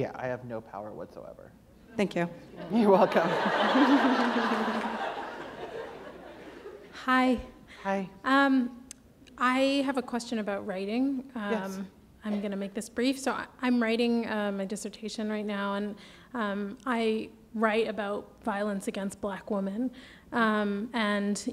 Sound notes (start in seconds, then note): 6.0 laughter